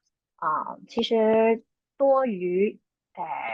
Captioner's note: speaking chinese